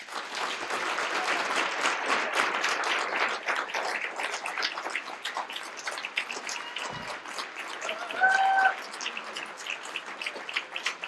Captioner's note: applause